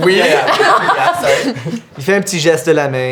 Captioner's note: laughter